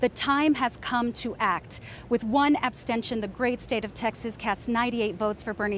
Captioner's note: speaking native language